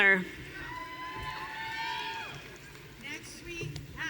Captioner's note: audience cheering